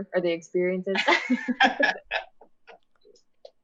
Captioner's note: laughter